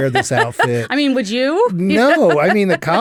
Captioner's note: laughs